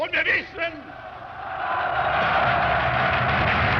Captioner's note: loud cheering